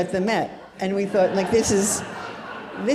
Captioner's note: audience laughs